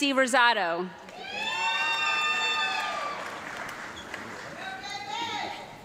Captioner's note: audience clapping and yelling